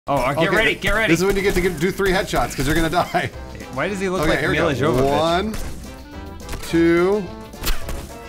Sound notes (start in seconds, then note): 2.5 chuckles